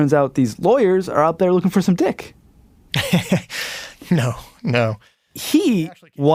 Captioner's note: laughs